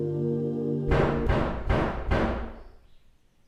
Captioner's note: distant clattering knock